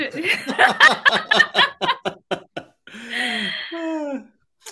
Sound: laugh

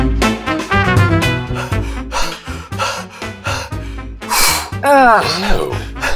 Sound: panting; panting

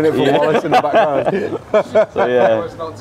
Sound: all laughing

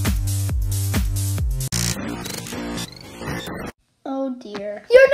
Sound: buzzing

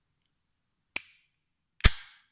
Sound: loud Magnet Snap; magnets Snap Together

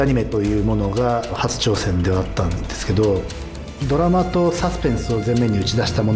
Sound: speaks Japanese

